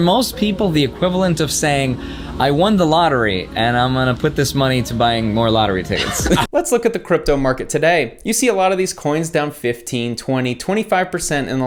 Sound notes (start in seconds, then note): 5.9 laughs